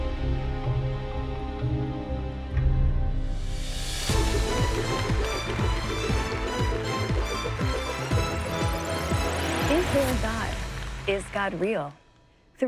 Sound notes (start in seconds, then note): 4.0 upbeat music; 4.1 audience applauds